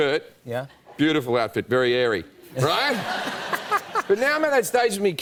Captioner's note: laughter